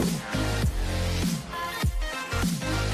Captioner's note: slurping coffee